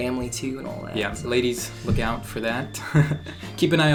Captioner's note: laughs